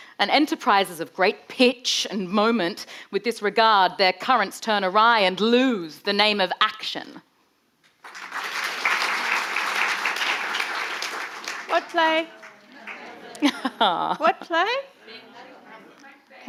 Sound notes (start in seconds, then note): 8.0 audience applauding